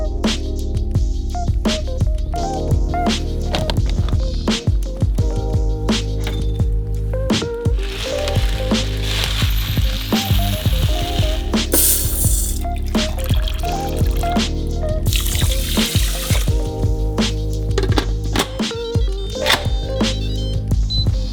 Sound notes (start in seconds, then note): 0.2 upbeat electronic music continues; 3.8 rustling bag; 6.2 cup clinking; 7.7 cup filling; 11.8 bowl filling; 13.3 water running; 14.9 water filling bowl